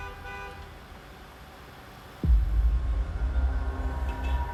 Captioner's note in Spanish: Sonido del claxon